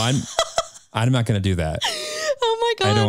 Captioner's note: chuckles